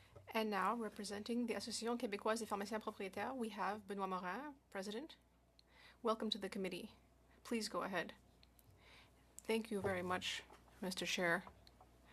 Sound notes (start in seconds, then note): 3.2 speaking French